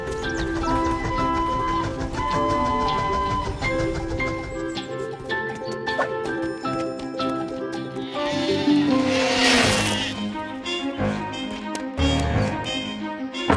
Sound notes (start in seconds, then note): 1.1 train whistling; 7.8 buzz; 7.9 sheep bleating